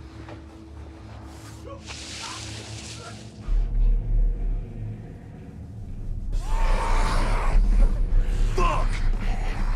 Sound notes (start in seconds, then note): 6.3 screams; 6.4 growls